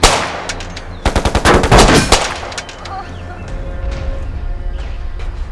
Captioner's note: guns pattering; intense orchestral music